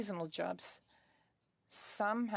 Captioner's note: speaking French